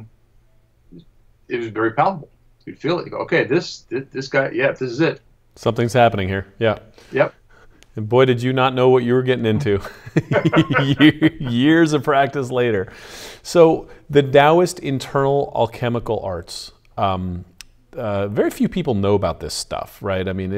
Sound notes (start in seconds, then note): 9.4 laughing